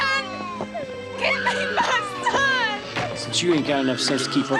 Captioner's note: Henry screaming